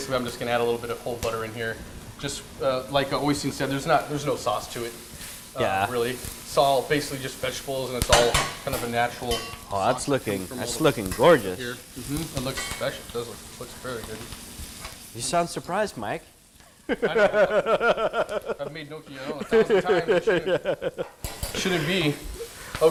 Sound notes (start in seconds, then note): 16.8 laughter